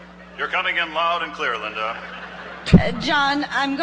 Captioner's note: voiceover